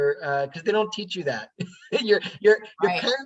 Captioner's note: laughing